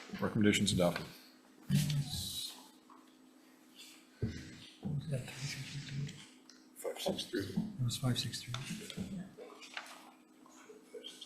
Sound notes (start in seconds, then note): 2.3 faintly speaking